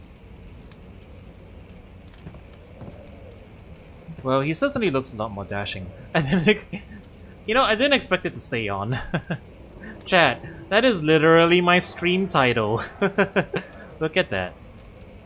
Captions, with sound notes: Well, he certainly looks a lot more dashing. And- d- h- Y'know, I didn't expect it to stay on. *laughs* Chat, that is literally my stream title. Look at that.